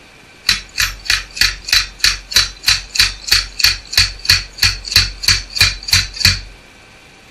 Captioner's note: pounding